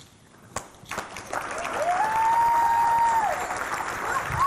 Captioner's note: audience clapping